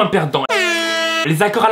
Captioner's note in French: Air Horn